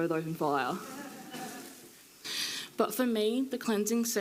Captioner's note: audience laughing